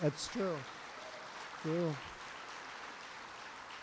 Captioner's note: applause